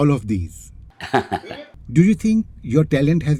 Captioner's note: laughs